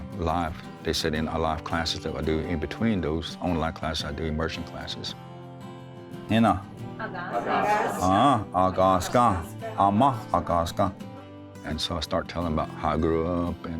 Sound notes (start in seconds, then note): 6.3 speaking Cherokee to class; 8.2 students repeat together in Cherokee